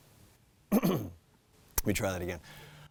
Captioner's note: clears throat